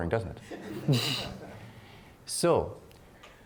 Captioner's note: laughing